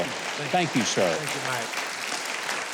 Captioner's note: crowd clapping